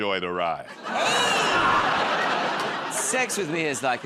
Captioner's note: laughter